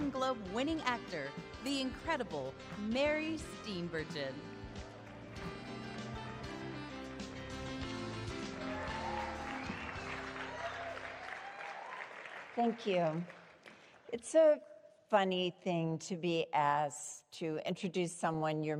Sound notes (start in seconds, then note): 5.1 upbeat music; 8.3 cheering